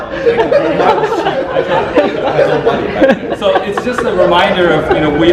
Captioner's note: audience laughter drowns out speakers